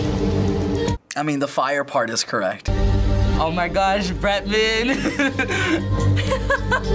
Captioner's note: laughs